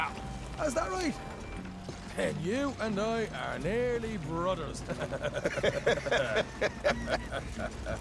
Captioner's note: he and Hamish laugh again